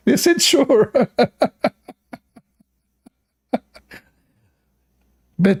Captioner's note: Ketawa